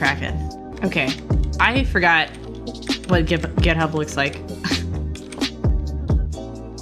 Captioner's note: laughs